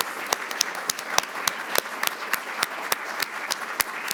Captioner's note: audience applauds